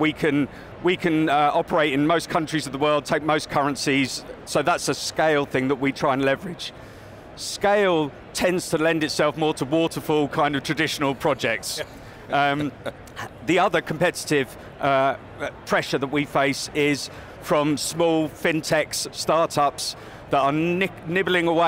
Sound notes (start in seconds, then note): 12.5 laughs